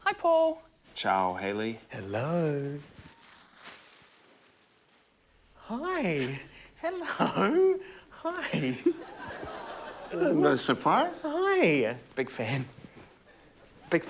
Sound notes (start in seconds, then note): 6.8 chuckles; 8.3 laughter